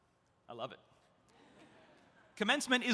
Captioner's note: audience laughs